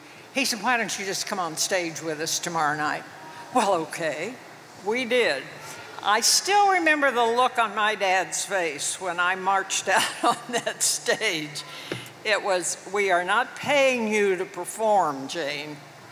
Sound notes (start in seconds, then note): 10.3 chuckles